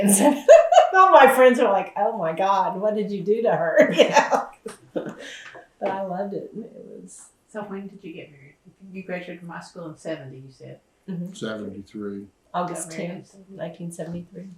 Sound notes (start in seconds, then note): 3.4 laughs